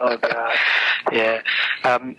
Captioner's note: laughs